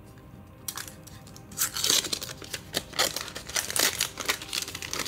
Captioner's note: covering ripping